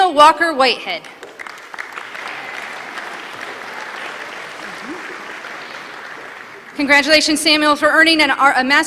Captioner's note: applause